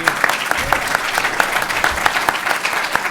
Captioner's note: applauding